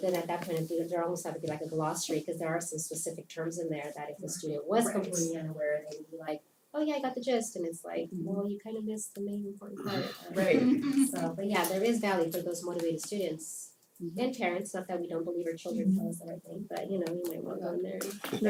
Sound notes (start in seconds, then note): 9.8 laugh